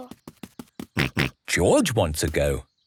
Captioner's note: snorts